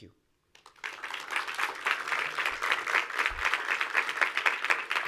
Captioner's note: audience applauds